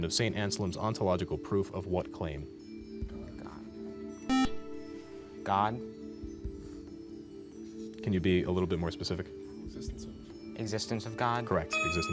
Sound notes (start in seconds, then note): 2.5 buzzer